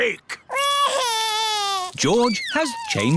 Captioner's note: crying